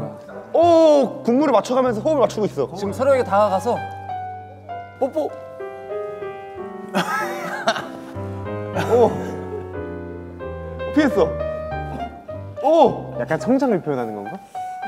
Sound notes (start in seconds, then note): 6.9 laughter